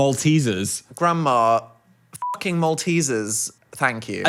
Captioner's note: beep